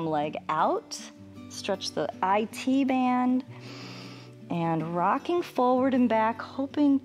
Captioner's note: inhales